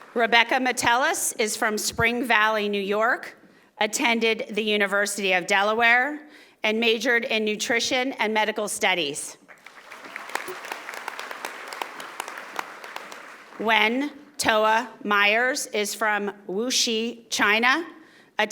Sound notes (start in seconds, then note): 9.5 audience applauding